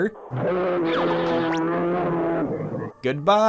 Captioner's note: roar